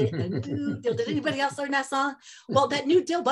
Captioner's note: laughter